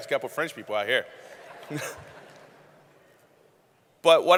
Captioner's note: laughing; laughter